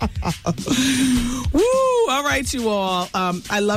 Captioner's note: laughing